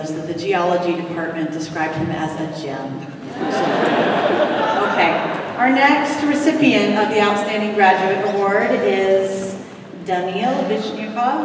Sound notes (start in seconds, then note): 3.1 laughter